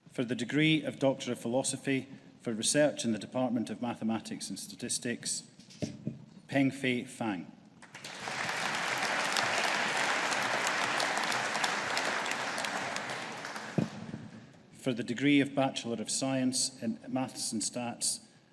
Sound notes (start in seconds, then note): 7.8 audience applauding